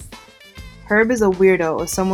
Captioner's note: voiceover